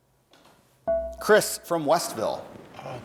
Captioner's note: dinging